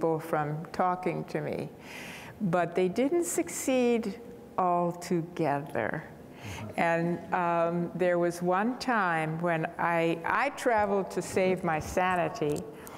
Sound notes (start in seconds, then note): none